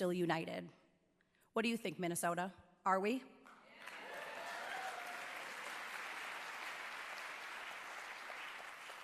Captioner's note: cheers and applause